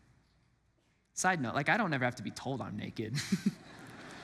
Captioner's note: laughs; congregants laugh